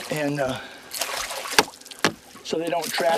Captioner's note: splashing